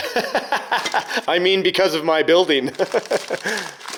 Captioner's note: laughs; laughs